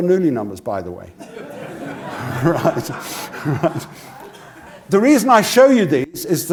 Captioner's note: laugh